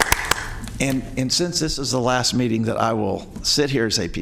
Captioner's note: applause